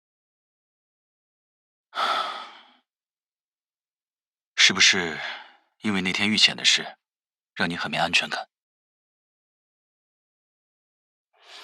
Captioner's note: sighs